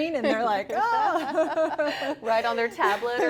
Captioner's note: both laughs